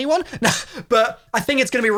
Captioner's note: chuckles